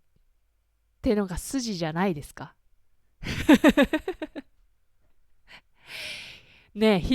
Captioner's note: laughs